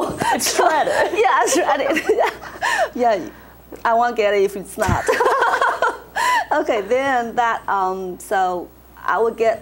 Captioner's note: laughs